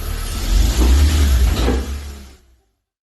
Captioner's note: noise of the engine